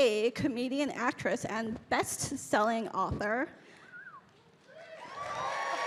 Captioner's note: Bridget whistling; audience cheering